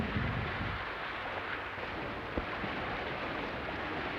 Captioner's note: wind howling